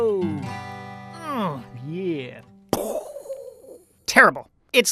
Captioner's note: imitates brain explosion whooshing